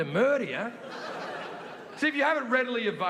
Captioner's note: audience laughing